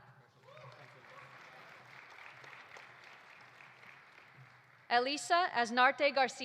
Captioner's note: audience applauding; audience cheering